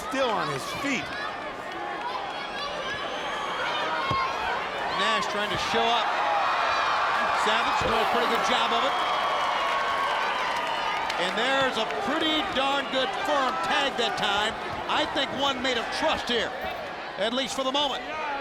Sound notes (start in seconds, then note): 10.2 applause